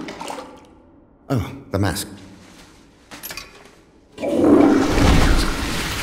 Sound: toilet water flushing

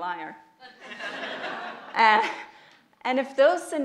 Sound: audience laughs

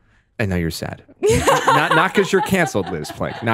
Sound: laughs

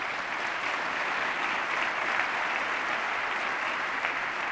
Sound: applause

